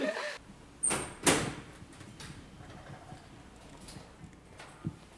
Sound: laughter; sound of door opening

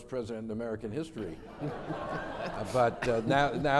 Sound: crowd laughs

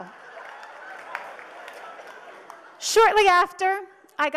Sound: audience laughs

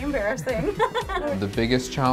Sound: laughter

